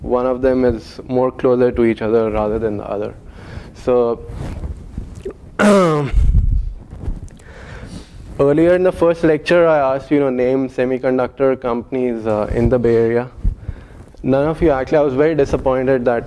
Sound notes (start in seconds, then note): 5.6 cough